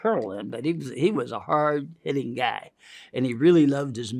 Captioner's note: inhales